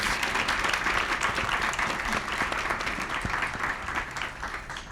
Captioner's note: applause